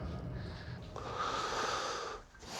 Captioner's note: breathes deeply